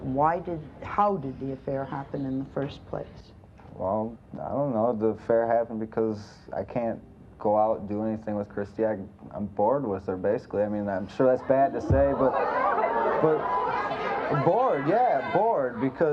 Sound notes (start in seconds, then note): 11.4 audience yells